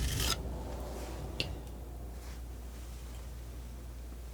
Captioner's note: scratching